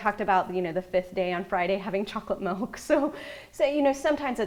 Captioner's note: laughs